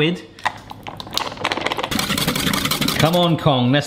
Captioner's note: whisking noises